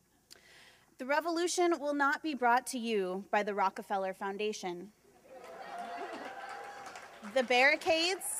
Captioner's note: laughter